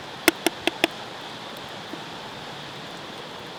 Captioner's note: ladle tapping